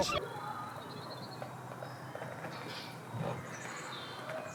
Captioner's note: birds tweeting